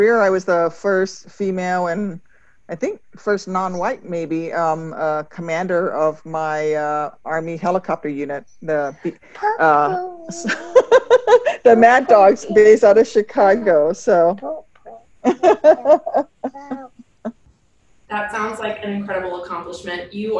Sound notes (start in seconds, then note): 8.9 laughs